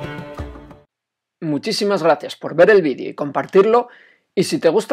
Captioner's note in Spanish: voz en off